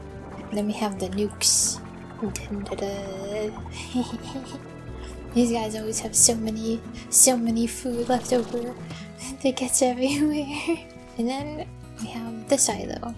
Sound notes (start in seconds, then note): 3.7 giggling; 10.2 giggling